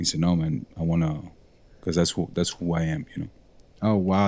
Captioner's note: none